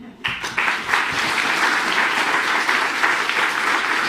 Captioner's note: audience applauding